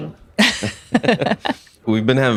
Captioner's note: laughing